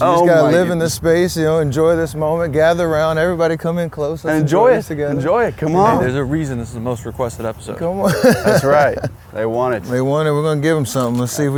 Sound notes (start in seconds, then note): 8.0 laughs